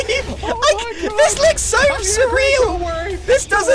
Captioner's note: laughing nervously